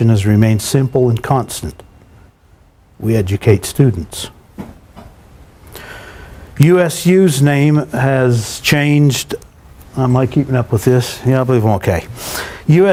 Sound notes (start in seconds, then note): none